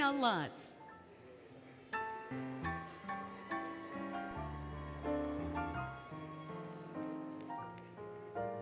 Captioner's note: applause, Cheering, Music